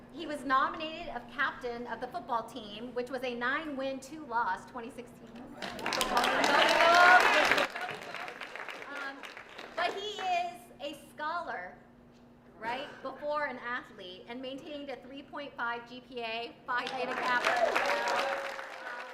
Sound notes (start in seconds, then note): 5.6 applause